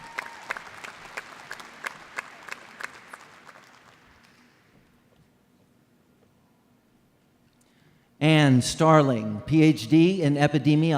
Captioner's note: applause